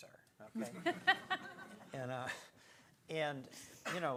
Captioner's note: audience chuckles